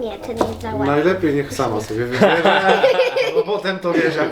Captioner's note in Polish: śmiech